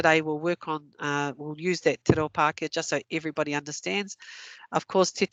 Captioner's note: non-english